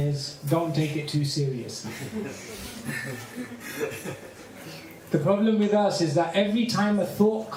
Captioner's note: laughter